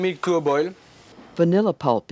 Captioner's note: voiceover